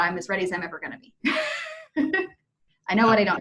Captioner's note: chuckles